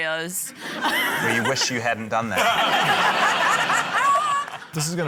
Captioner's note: laughter